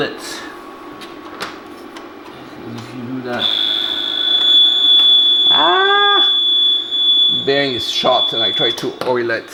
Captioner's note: horrible screeching noise